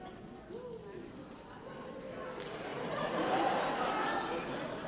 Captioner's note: audience chatting